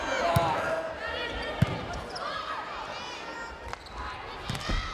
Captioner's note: players yelling